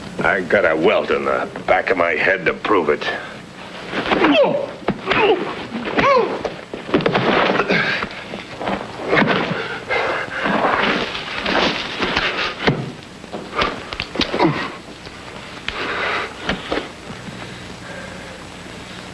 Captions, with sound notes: I've got a welt on the back of my head to prove it. (fist pounding) (Jim grunting) (Gypsy thuds) (Gypsy panting)